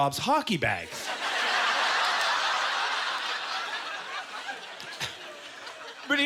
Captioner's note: audience laughter